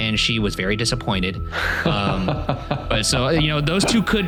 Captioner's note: laughing